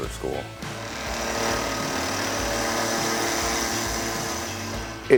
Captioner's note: machine running